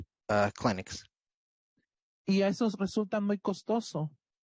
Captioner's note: speaking Spanish